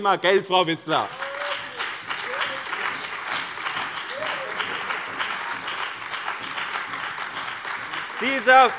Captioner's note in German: Beifall bei dem BÜNDNIS 90/DIE GRÜNEN und der CDU